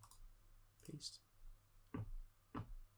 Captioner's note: mouse clicking